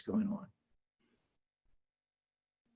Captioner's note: silence